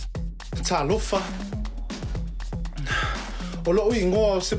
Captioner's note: speaks Samoan